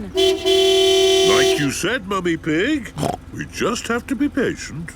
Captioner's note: honking; snorts